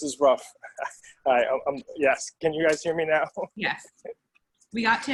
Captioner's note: laugh